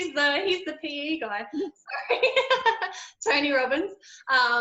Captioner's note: laughs